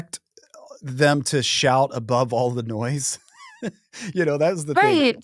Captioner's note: chuckles